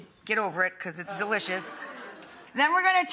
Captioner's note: audience laughs